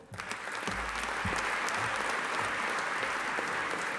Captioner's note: audience applauding